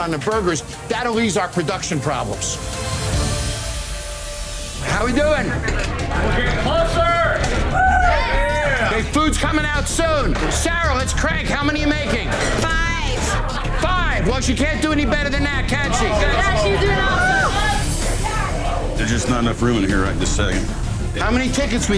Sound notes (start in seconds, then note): 6.6 cheers; 16.4 cheers